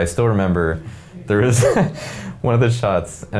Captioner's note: laughing